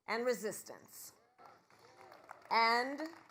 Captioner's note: applause